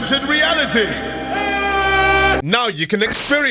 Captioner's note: aaaaaa